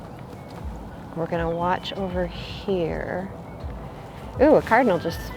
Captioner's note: in a hushed tone